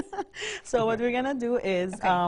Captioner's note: laughs